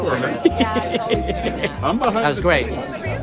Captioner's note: laughing